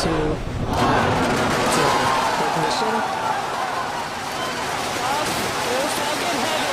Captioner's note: launch, exited screams